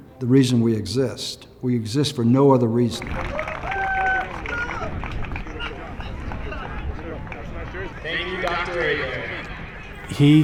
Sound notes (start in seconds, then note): 3.1 cheering